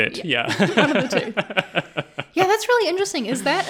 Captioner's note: laughing